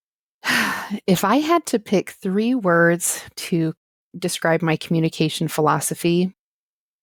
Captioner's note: sigh